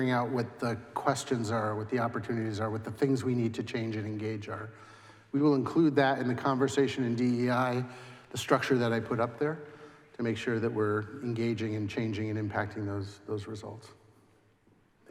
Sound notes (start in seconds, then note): none